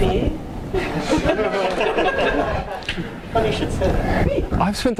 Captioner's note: laughing